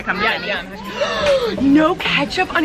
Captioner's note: gasping